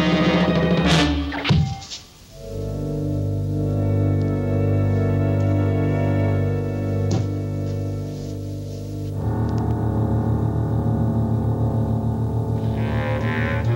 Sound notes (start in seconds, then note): 1.6 ax thudding; 1.6 ax whooshing; 2.3 tense music